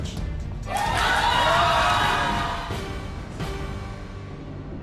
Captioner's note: audience yelling